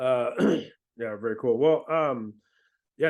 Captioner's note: clears throat